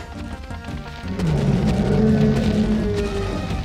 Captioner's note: growling